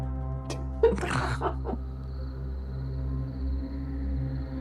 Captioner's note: people laughing